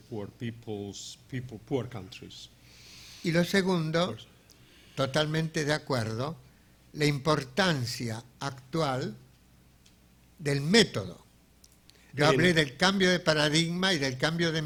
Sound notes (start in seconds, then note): 3.7 speaking in a foreign language